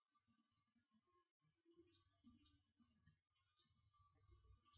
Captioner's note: mouse clicking